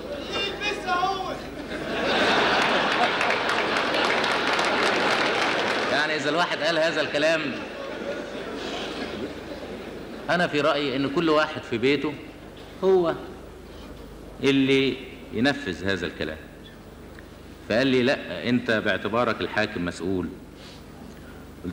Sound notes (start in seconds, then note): 1.4 audience laughter; 2.5 applause